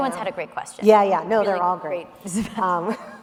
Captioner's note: laughs; laughing